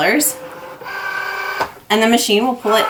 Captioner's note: machine buzzing